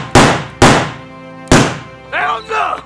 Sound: gun shots; gun shot

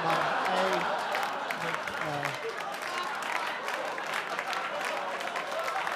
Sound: audience cheer and applaud

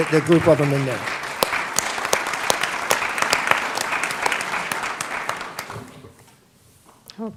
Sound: applause

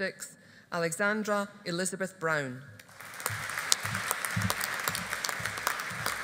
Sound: audience applauding

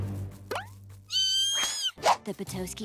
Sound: shrieking

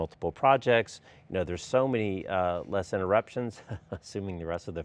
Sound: chuckles

